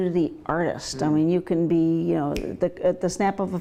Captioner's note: snaps fingers